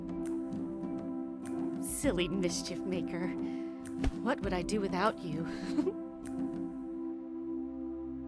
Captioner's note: chuckle